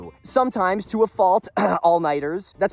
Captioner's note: coughs